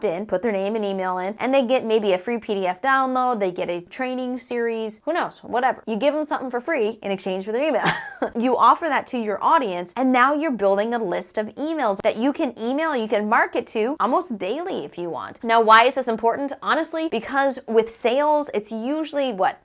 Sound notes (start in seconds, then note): 7.8 laugh